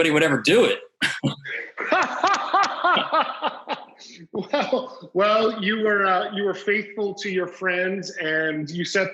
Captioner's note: laughs heartily